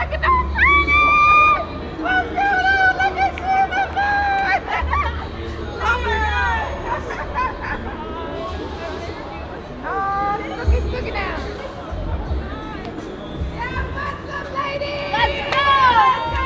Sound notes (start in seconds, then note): 0.0 crowd cheering; 0.2 screams; 4.9 both laughs